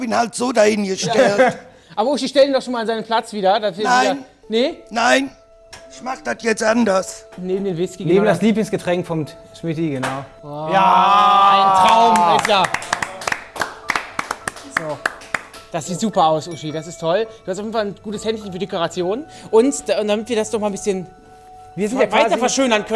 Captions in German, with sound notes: da hab ich ihn so hingestellt. Uschi, stell ihn doch mal an seinen Platz wieder. Nein. - Nee? Ich mach dat jetzt anders. - Neben Schmittis Lieblingsgetränk. Ja! - Ein Traum! (Applaus) Das sieht super aus, Uschi, das ist toll. Du hast ein gutes Händchen für Dekoration. Damit wir das weiter verschönern können,